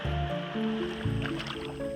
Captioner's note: water splashing